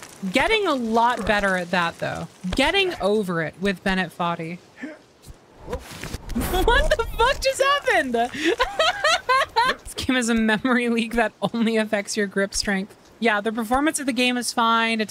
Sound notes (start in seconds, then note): 8.3 laughter